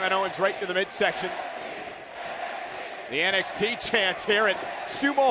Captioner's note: fans chanting